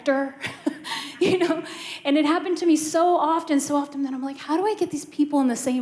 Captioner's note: laughter